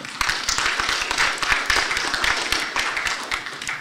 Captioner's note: applause